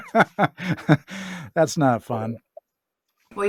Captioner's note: laughs